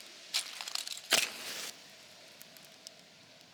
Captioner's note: match strike